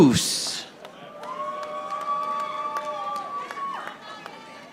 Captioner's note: audience applauding